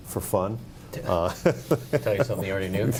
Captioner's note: laughing